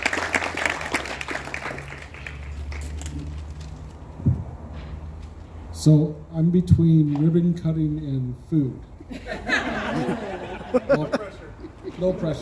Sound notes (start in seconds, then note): 0.0 applause; 9.0 crowd laughs